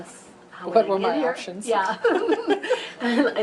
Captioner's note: laughs